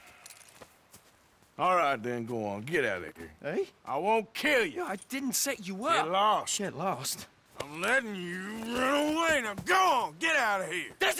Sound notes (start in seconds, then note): 1.8 sighs